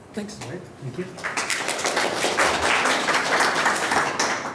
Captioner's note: applause